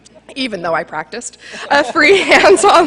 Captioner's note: laughter